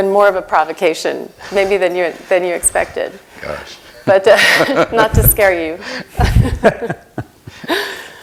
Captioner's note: laughter